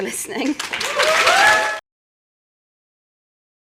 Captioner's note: applause